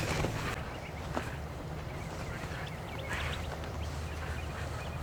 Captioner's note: wind blowing